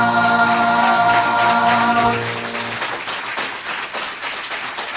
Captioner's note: audience applause